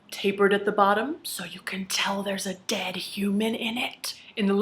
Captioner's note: whispering